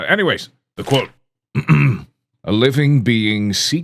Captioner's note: clears throat